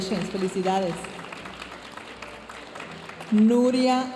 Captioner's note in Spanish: aplausos de la audiencia